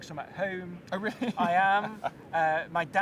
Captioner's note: chuckles